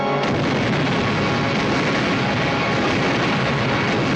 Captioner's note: blasting